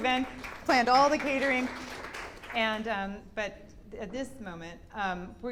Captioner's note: clapping